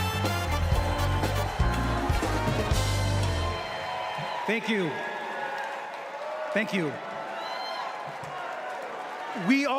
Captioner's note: applause